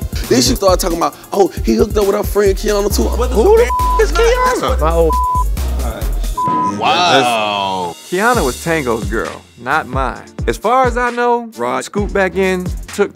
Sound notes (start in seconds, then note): 3.6 beep; 6.1 friends chattering; 6.3 beep